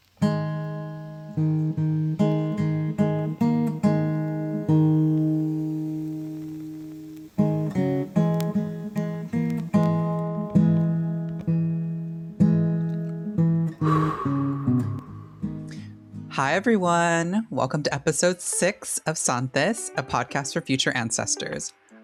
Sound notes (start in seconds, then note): 0.1 solemn acoustic guitar; 8.8 flame flickers; 13.8 long exhalation